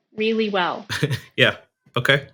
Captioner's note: laughing